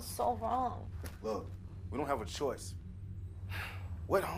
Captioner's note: sighs